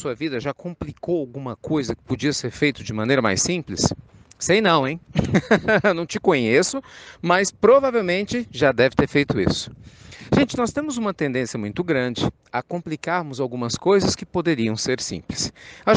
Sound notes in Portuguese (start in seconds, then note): 5.1 Risos